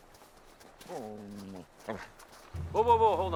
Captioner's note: Buck growls